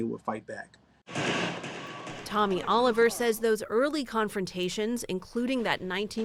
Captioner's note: voice-over